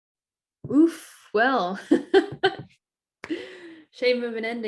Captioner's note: laughter